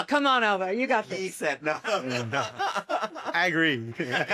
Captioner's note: laughter